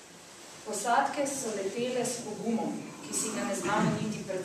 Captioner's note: non-english speech